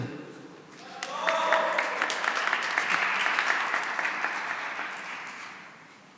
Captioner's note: cheering and applause